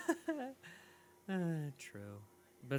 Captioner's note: laughs; sigh